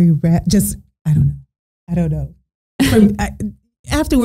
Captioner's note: laughing